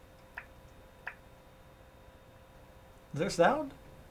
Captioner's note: volume indicator clicking